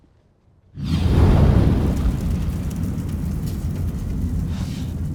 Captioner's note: fire roaring